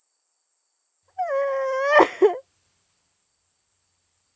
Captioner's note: sobbing